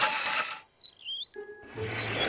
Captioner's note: wheels squeaking